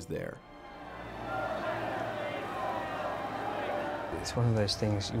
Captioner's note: crowd clamoring